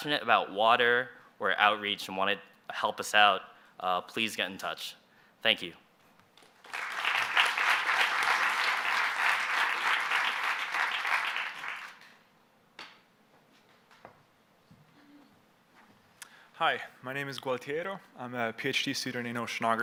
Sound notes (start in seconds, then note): 6.4 applause